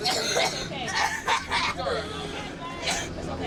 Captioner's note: coughs